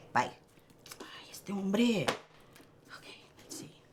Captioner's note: Spanish